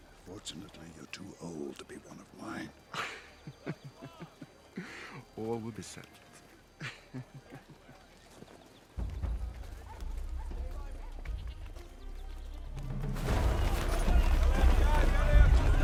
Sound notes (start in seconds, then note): 2.8 chuckles; 6.7 chuckles